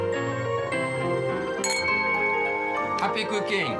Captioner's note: glasses clinking